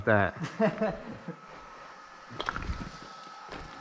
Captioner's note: laughing